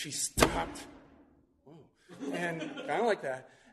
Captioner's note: slams fist on table